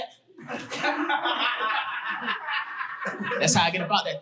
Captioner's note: audience laughing